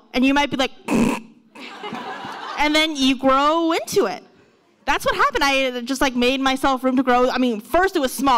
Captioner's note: laughs